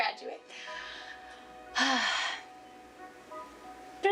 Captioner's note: sighs